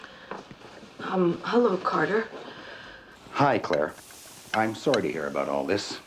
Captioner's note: none